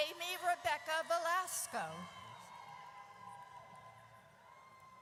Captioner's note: audience cheers